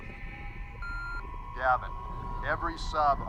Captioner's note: beeping; voiceover